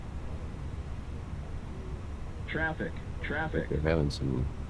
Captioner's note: radio chatter